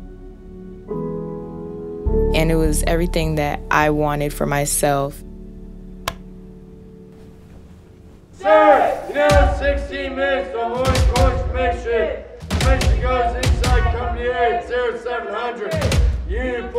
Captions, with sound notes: And it was everything that I wanted for myself. (light switch) (Sailors chanting) (intense music) (Sailors continue chanting)